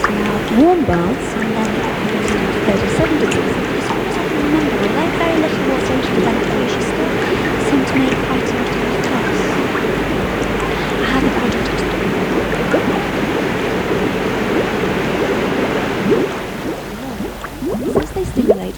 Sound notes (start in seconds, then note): 12.8 running water, bubbling